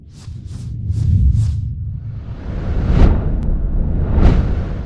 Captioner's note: logo whooshing